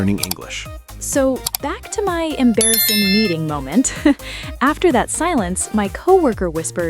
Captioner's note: laughs